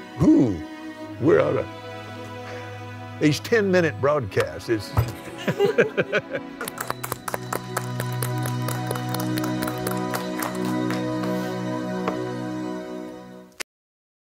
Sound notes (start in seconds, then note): 6.6 clapping